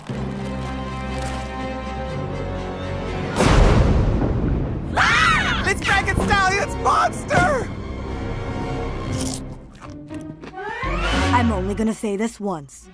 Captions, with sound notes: [thunderclap] -[all scream] -It's Frankenstallion's monster! I'm only gonna say this once.